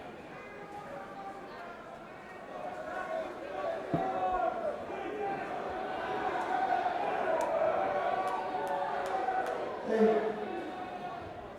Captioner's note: crowd chatter